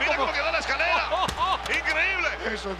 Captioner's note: laugh